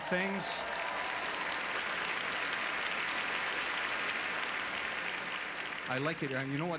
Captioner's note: applause